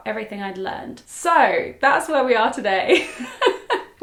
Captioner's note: laughs